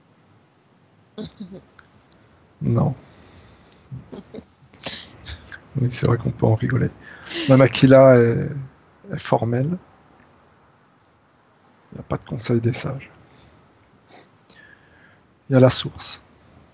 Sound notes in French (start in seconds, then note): 0.8 rires